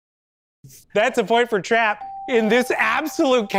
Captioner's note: bell